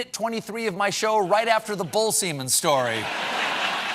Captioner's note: laughing